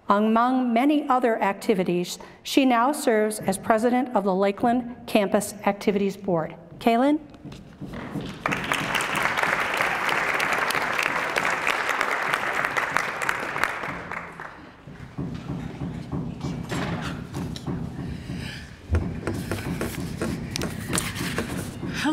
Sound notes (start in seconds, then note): 8.3 applause